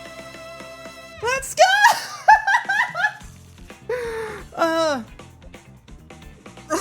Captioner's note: laughter; muffled laughter